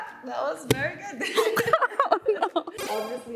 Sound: chuckles

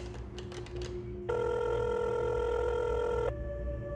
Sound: dialing

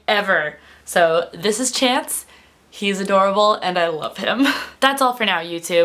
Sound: laughs

